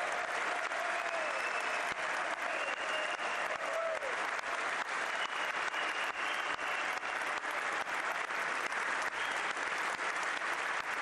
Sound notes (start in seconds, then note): 0.0 applause; 3.0 cheering